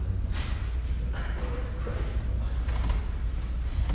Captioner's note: laughing